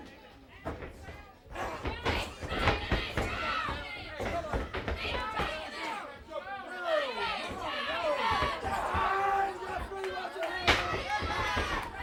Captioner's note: crowd chatter